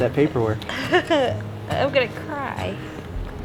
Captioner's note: laughs